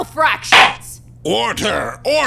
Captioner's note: gavel slams!